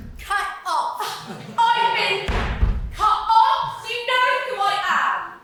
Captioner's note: stomp stomp